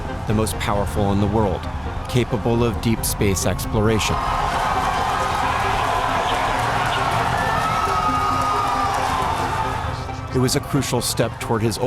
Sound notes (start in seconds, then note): 2.9 cheering loudly